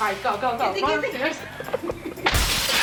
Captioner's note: videographer giggles; glass shattering